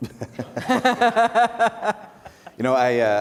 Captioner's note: laughter